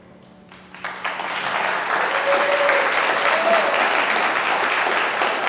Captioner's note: congregation clapping